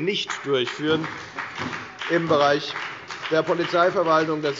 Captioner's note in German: Beifall bei der FDP und bei Abgeordneten der SPD